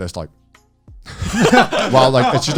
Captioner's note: all laughing